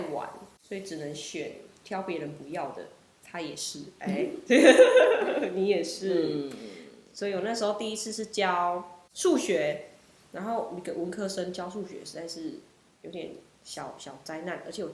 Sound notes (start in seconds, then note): 4.5 laughs